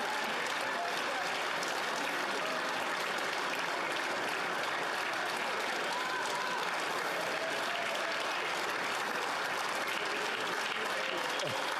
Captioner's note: cheering/Applause